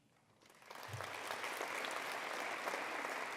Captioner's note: applause